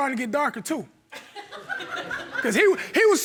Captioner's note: audience laughing